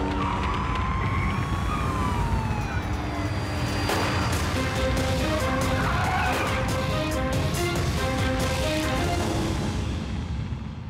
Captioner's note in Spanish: sirenas